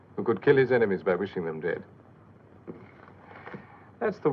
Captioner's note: none